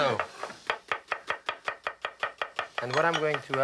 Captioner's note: chopping